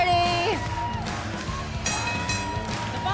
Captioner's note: bell ringing